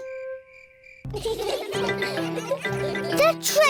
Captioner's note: laughter